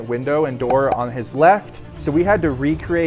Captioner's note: effect popping